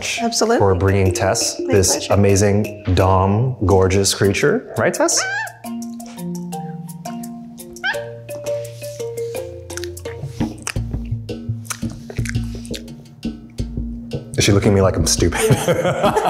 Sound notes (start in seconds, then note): 5.0 monkey squeaks; 8.5 uplifting music; 15.4 laughs